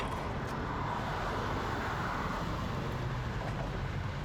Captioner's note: car rushing